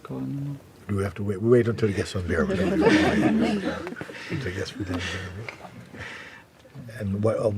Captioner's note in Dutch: gelach